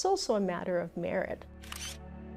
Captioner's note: camera flash